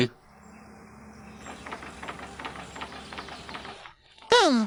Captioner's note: engine Sounds